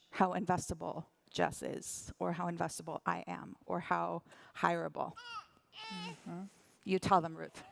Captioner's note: baby vocalizing